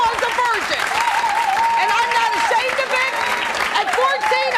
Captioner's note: clapping